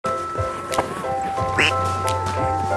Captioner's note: quack